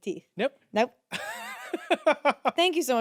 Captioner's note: laughs